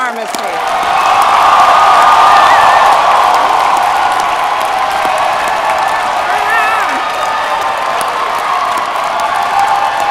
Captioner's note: cheering; applause